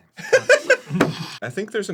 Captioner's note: laughs